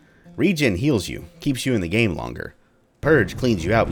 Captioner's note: thunder